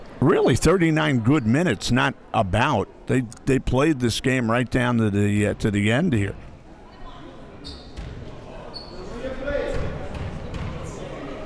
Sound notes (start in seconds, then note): 6.4 crowd murmuring